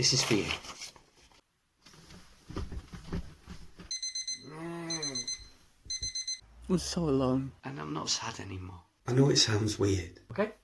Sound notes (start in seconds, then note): 3.9 alarm beeping